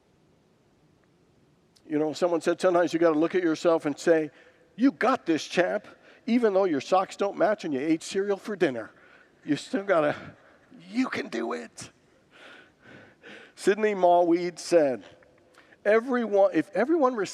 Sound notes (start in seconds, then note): 8.7 congregants laugh